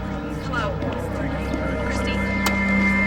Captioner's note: none